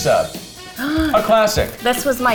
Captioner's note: gasps